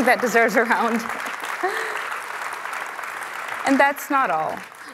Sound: applause

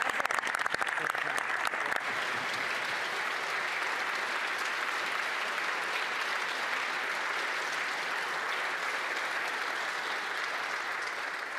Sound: applause

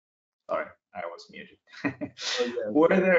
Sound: chuckling

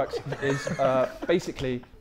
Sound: Sidemen laughing

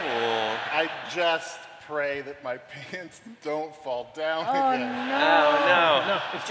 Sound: laughter

